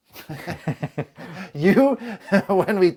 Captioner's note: laughing